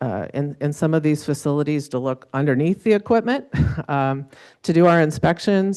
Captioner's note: laughs